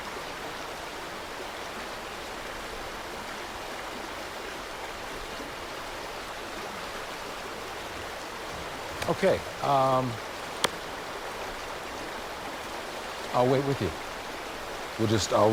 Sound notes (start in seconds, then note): 0.2 water burbling; 8.9 palms smack